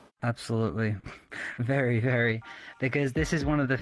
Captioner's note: man laughs